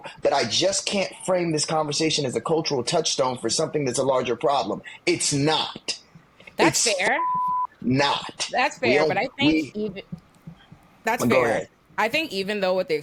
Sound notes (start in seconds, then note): 6.6 beep